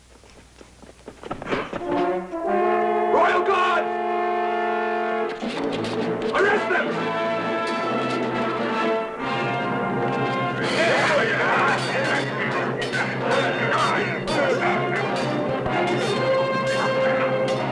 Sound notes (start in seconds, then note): 7.6 dramatic music; 10.6 grunting, yelling, clanging